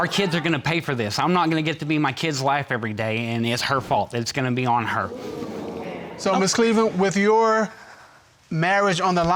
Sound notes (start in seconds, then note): 4.8 audience murmuring